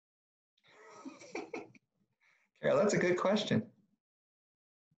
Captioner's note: laughs